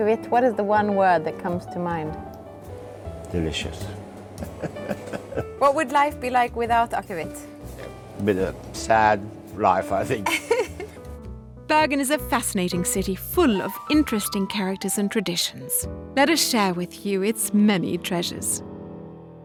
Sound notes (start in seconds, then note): 4.4 laughs; 10.2 laughs